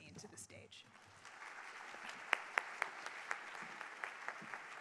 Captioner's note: audience applauds